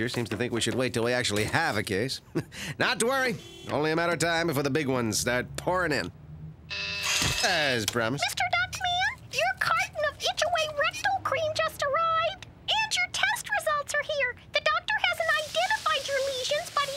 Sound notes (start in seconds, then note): 6.7 intercom buzzes